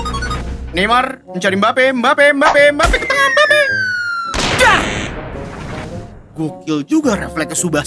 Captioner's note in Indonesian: berteriak